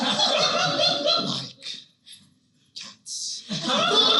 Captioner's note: Christopher Walken Voice